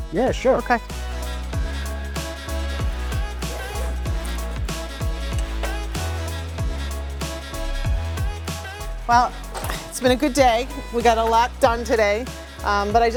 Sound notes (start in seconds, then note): 1.5 upbeat jazzy music; 3.6 zipper buzzing; 4.7 upbeat jazzy music continues